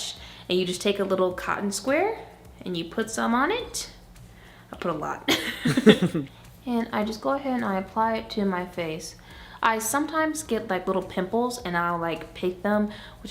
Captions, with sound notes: - And you just take a little cotton square and you put some on it. I put a lot. (chuckles) And I just go ahead and I apply it to my face. I sometimes get little pimples and I'll pick them,